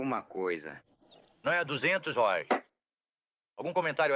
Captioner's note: gavel bangs